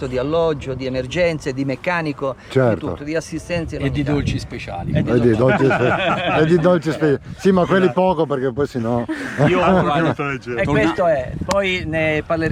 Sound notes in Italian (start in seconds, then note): 10.4 risate